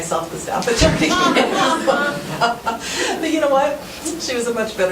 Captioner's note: laughing